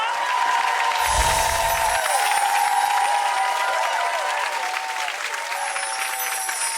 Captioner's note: audience cheers; audience applauds